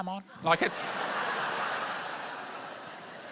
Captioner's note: laughter